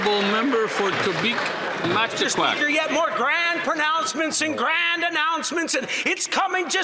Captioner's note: some Applause